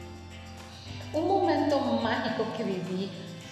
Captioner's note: non-english speech